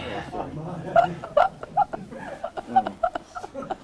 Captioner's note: laughter